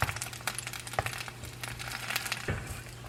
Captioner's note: sizzling